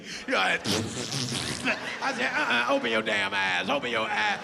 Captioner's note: farting sound